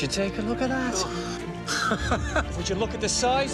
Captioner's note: man laughing